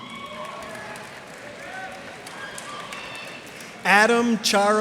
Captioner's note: cheers and applause